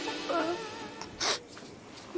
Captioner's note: sniffles